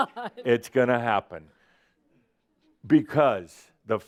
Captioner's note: laughing